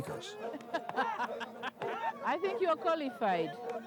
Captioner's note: Madam President laughs